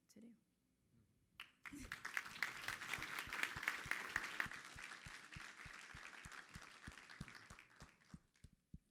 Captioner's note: applause